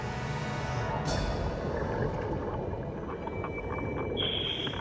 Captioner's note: water burbling